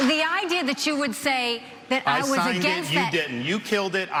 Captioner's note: applause